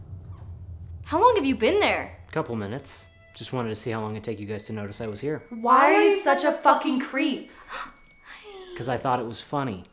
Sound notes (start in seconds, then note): 8.2 gasp